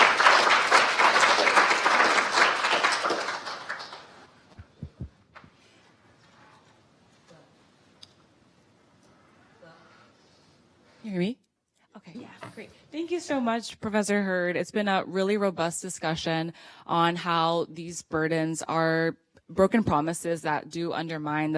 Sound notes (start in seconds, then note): 8.4 applause